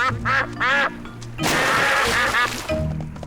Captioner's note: ducks quack